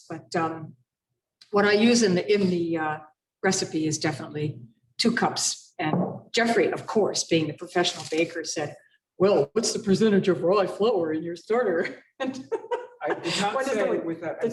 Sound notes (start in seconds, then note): 12.2 laughs